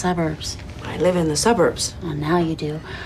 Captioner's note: none